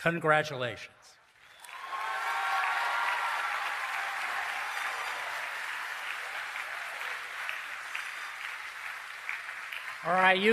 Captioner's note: cheering and Applause